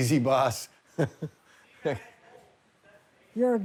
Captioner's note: laughs